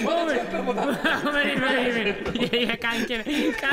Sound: laughs

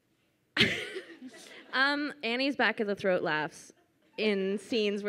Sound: laughs

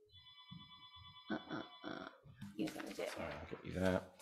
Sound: phone rings in distance

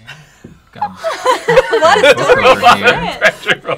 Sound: laughter

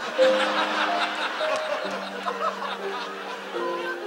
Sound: audience laughs; gentle music

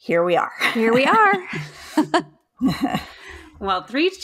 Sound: laughs

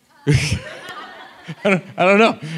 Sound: audience laughs

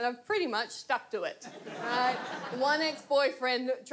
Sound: audience laughs

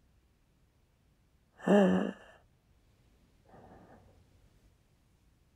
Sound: shallow breath

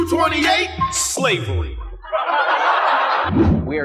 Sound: laughter

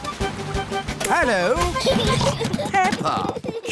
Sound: children giggling

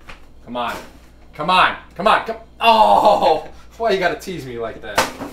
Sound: groans

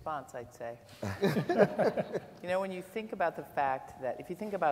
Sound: laughter

